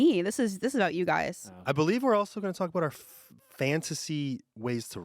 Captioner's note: none